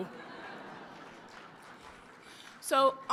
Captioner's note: laughter